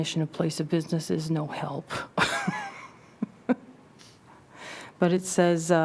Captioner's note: laughter